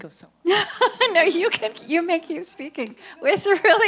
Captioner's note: laughs